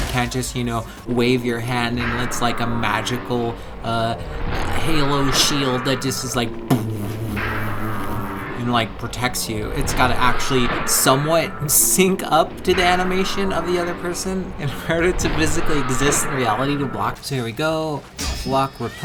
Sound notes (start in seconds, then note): 6.5 shield noises